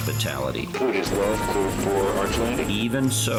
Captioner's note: radio